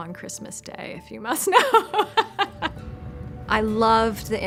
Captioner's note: laughs